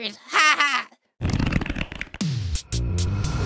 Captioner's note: stretching sound